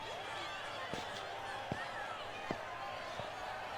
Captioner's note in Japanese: 大歓声